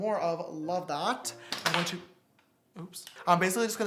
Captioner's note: makeup product falls